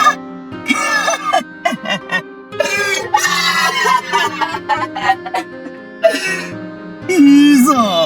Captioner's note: more retarded indian laughter